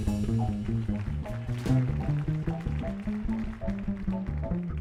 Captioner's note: audience applauding